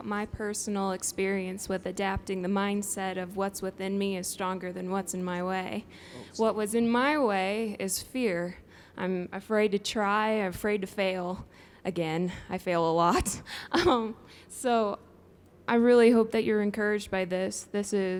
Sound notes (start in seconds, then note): 13.8 laughs